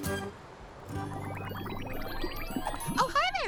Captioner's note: water bubbling